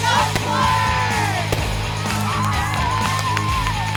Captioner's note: cheering